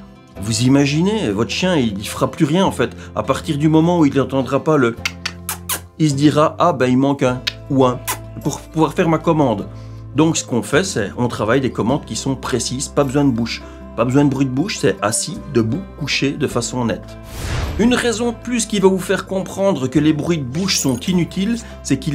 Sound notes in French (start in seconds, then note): 5.4 bruit de bouche